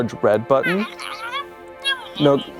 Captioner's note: squeaking